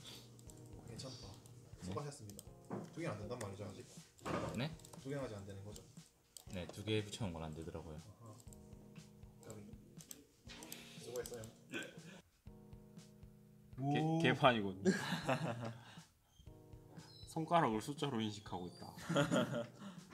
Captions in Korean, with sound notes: 괜찮다 수고하셨습니다 2개는 아직 안되는거죠? 네? 2개 붙여둔 건 안되더라구요 아깝다 수고하셨습니다(웃음) 오~ 개판이군(웃음) 손가락을 숫자로 인식하고 있다 (웃음)